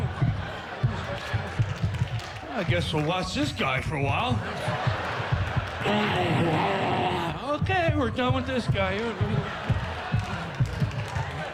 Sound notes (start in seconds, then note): 5.8 roars